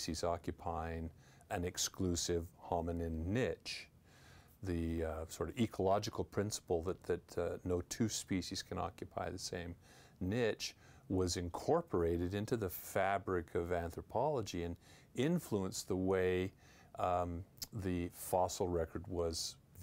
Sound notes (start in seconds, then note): none